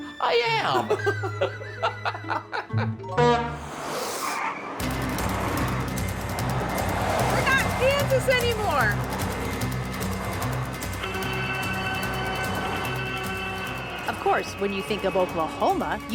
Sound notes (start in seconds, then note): 0.6 both laugh; 3.1 horn honks